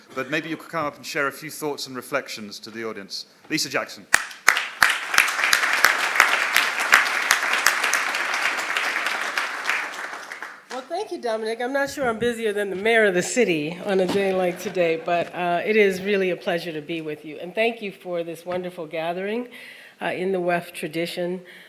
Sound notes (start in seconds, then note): 11.0 applause